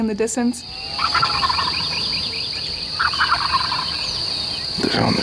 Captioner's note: turkey gobbling